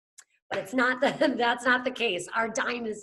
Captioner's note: laughs